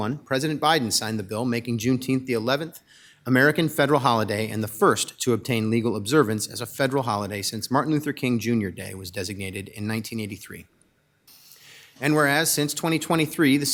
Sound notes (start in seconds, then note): none